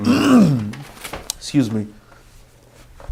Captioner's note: clearing throat